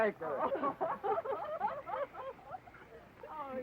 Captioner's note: guests laughing